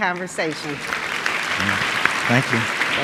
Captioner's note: audience clapping